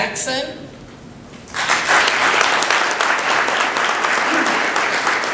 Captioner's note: applause